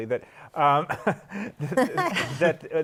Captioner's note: laughter